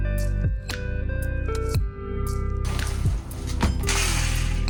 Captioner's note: reciprocating saw